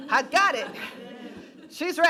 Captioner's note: laughing